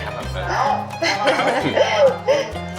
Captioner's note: laughing